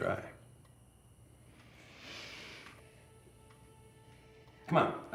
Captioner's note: sighs